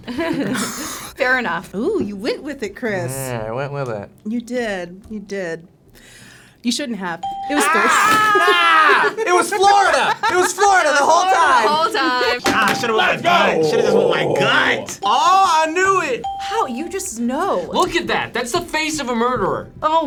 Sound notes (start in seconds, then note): 0.0 laugh; 7.2 ping; 7.5 laughs; 8.3 exclaim; 16.2 ping